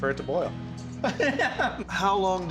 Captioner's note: laughing